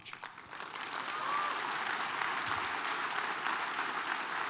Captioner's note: audience applauds